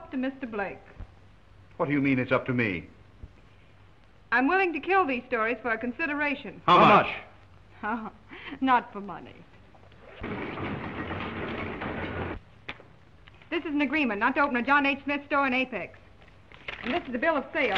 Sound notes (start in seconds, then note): 10.2 printing press whirring